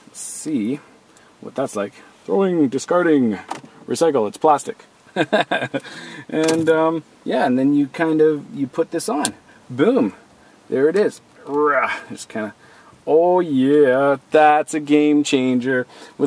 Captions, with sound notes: See what that's like going discarding. Recycle, It's plastic. (loughs) And, yeah, and then you kind of you put this on, boom, there it is. It's kinda, oh Yeah, that's a game changer.